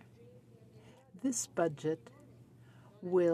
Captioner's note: speaking French